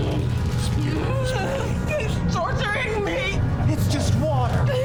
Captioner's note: whimpers